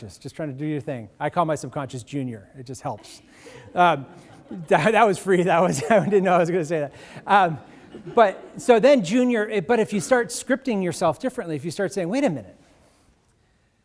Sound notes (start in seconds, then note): 4.2 audience laughing; 4.2 laughs